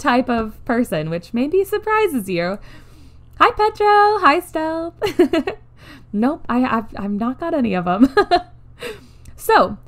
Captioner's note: laughs